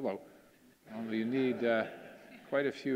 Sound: audience laughing

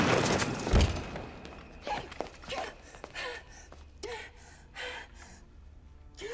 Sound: panting

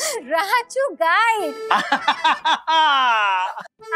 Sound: laughs

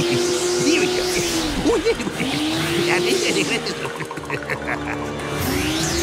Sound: laughing; chuckles

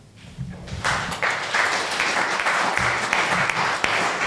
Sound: audience applause

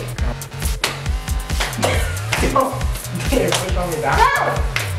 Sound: hands slapping legs

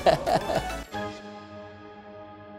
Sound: risas

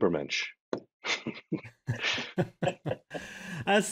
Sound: both laughing

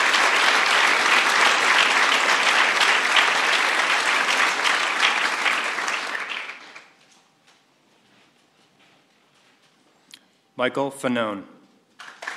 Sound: applause

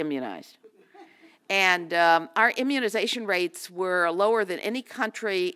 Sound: laugh

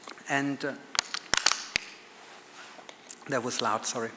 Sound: water bottle creaks

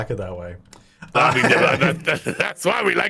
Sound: laughter

